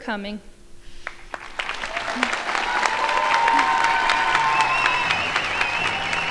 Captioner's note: crowd shouting and applauding